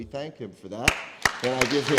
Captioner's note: applause